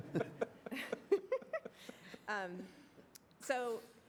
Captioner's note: laughter